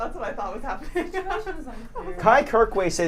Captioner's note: laughs